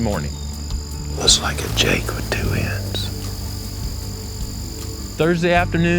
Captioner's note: whispering